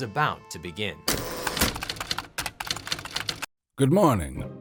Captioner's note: typewriter clicks